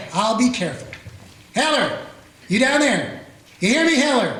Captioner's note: shouting